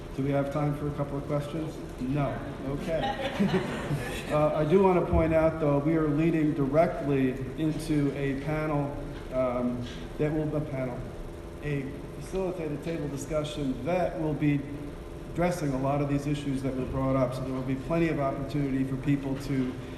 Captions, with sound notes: Do we have time for a couple of questions? No, okay (laughing). I do want to point out though, we are leading directly into a panel, Deb what panel? A facilitated table discussion that will be addressing a lot of these issues that were brought up. So there will be plenty of opportunity for people